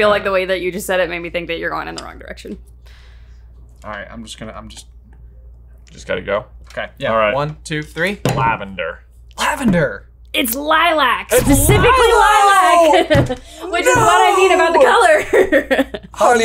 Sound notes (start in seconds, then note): 11.3 exclaiming; 11.4 laughs